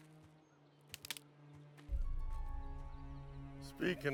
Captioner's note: stick breaking